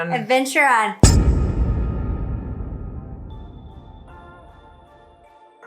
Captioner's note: loud thud